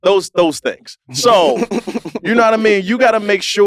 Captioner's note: laugh